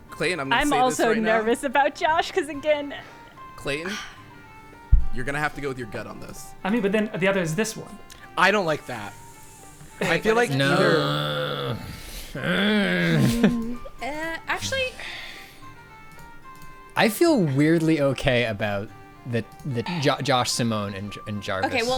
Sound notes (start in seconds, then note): 10.5 groaning; 17.1 pat